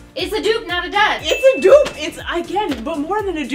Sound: ding

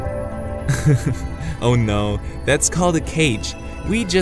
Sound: laughs

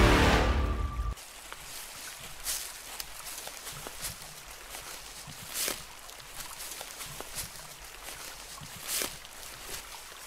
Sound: whoosh; creek flowing, walking through leaves

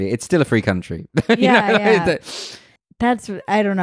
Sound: laughs loudly

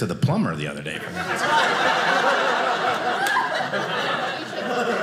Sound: audience laughing

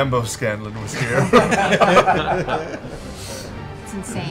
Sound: laughter

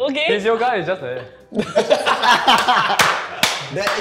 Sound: laughs

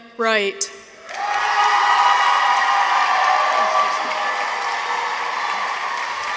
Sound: people cheer; audience applauds

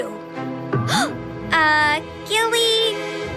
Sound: gasping

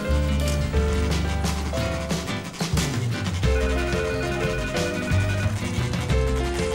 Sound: printer sounds; telephone ringing

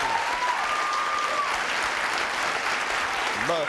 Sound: audience applauding and cheering

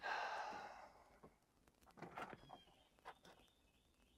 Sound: Ezra sighs

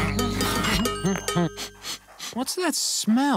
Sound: sniffing

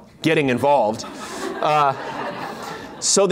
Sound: laughter

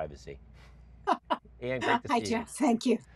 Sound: laughing

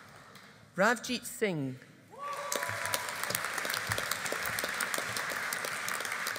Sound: audience applauding

